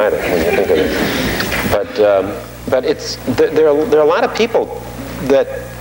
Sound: audience laughing

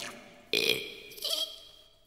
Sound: burp! Hehe!

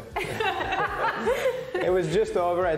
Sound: laughing

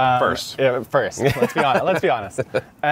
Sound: laughing

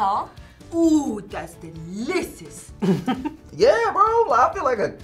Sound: laughs

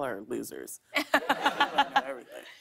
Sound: laughter

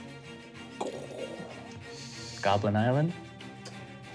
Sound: growling

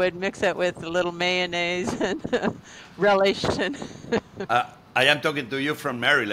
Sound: chuckles

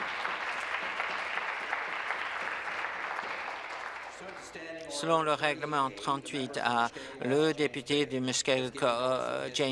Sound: applause

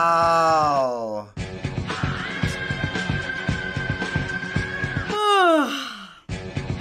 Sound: yawns

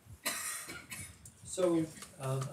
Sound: person coughing

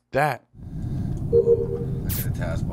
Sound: buzz

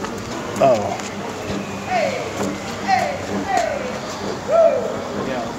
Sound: passersby shouting, traffic sounds

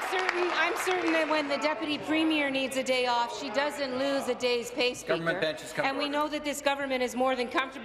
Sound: applause

